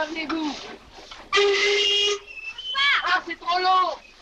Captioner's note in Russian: свист парохода